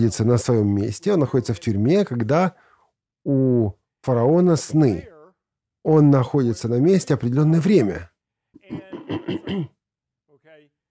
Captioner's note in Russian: откашливается